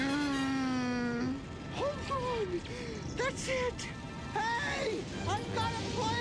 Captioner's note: gasps